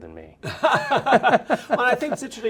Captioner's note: laughing